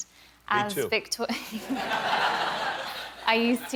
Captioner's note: laughter